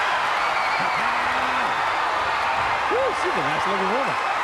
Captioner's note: crowd cheering